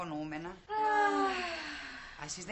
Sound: stella & toula sigh

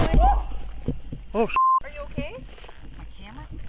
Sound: beep

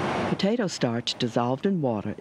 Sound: voiceover

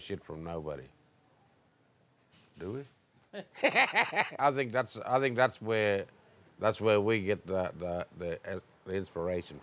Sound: laughs

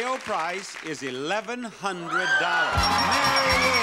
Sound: screaming; upbeat music

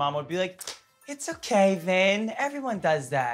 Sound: claps hands

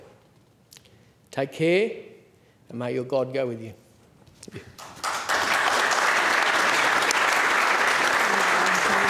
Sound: applause

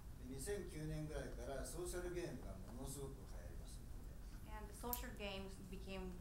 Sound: speaking in foreign language

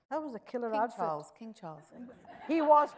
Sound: audience chuckles

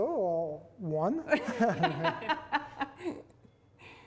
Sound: all laugh

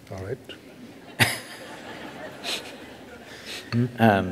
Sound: laughter

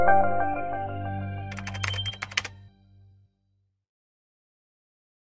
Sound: keyboard clicks

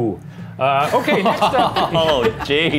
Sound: laughing

